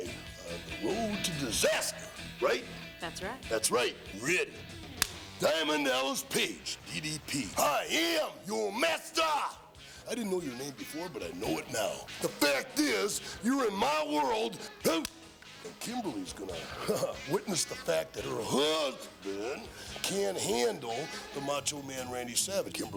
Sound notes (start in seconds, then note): 5.0 clapperboard clapping; 14.9 sighing; 16.4 chuckling